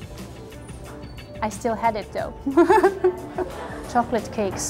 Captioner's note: laughs